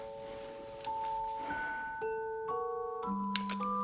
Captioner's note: sighs